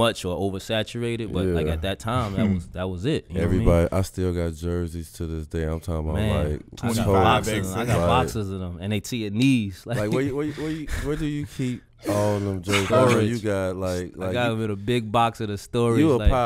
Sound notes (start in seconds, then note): 9.9 laughs